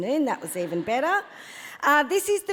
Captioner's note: audience laughs